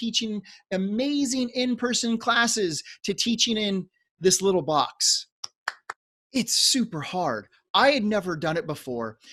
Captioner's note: claps